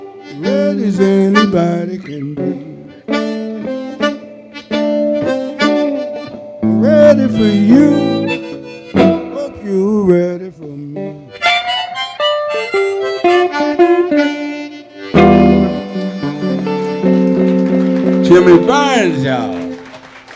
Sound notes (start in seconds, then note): 16.2 audience applauding